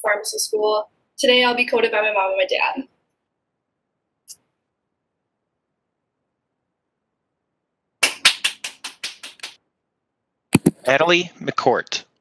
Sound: clapping

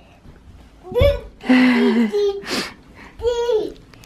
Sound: child's mumbles; laughing

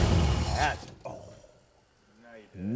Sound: engine quits

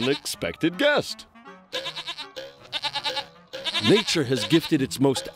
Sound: bleating

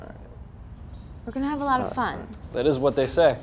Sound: keys jangling

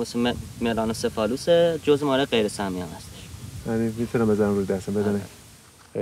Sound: they speak Farsi

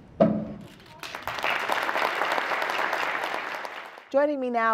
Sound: applause

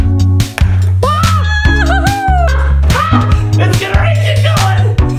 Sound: laughing; screaming

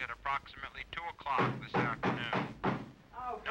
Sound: knocking on door

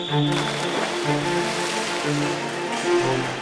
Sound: whistle; water Splash

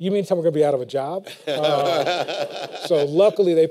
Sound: laughter

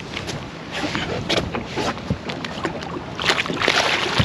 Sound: fish splashing

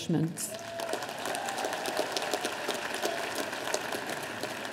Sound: audience applauding

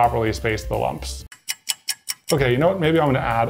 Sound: clock ticking

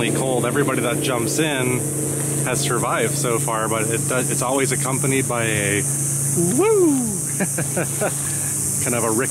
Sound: laughs

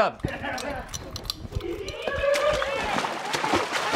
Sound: kids giggling

